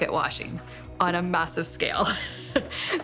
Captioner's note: laughing